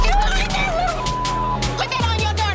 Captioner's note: beep